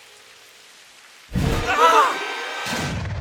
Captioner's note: screams